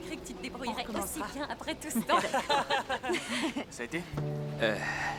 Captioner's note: laughing